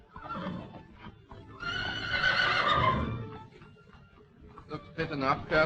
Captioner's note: horse whinnying